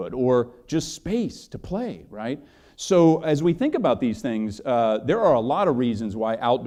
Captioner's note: none